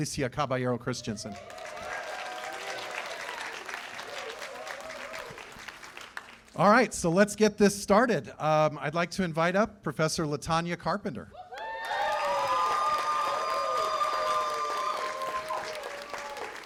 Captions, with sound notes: Alicia Caballero-Christenson. [CHEERS AND APPLAUSE] All right, so let's get this started. I'd like to invite up Professor LaTonya Carpenter. [CHEERS AND APPLAUSE]